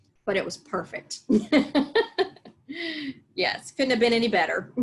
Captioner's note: both laugh